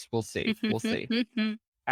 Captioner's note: chuckling